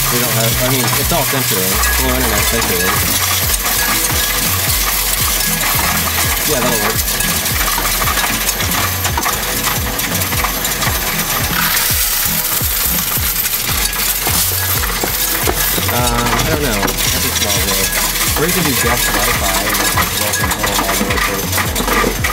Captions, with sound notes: We don't have any, it's all (voice muffled by coins). (coins rattling) (upbeat music) Yeah, that'll work. (coins rattling) (upbeat music) Uh, I don't know. (voice muffled by coins)